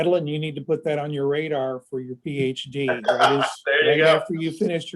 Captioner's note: laughter